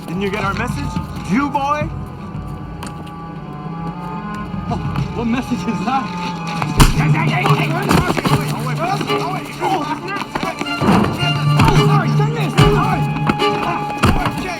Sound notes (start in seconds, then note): 6.6 thuds; 6.6 clattering; 10.6 thuds; 11.6 dramatic music